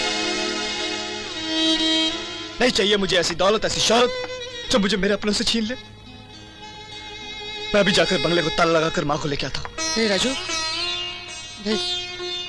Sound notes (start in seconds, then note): none